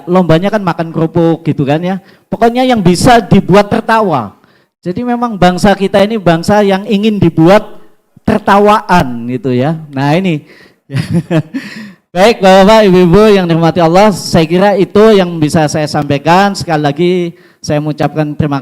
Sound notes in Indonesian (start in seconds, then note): 10.9 tertawa